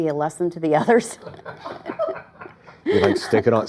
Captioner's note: laughter